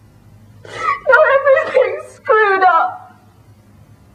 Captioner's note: sobbing